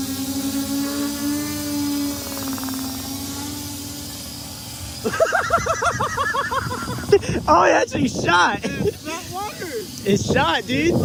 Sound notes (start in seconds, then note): 5.0 surprised laughter